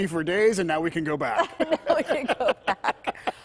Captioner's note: laughter